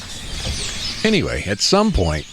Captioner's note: SFX: Grackles